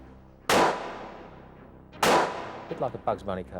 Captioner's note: gunfire popping